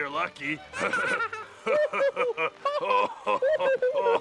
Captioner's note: both laughing